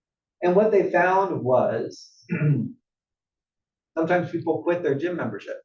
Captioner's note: cough